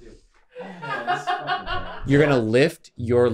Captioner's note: laughing